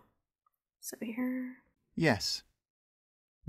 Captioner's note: automated voice